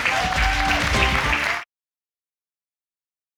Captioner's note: applauding